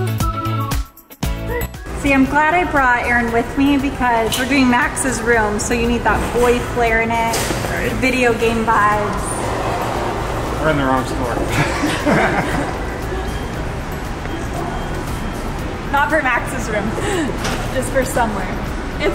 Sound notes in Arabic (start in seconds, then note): 11.4 كلاهما يضحك